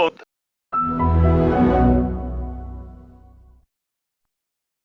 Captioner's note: Orange Evil Windows XP Shutdown Sound